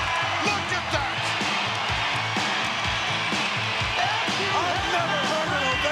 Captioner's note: crowd cheering; upbeat music